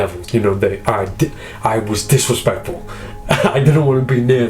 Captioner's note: laughs